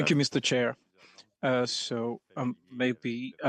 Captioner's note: speaking French